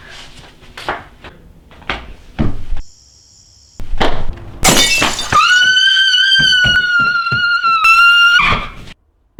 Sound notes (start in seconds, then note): 4.6 breaking glass; 5.2 woman screams